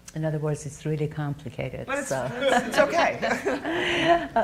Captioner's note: audience chuckling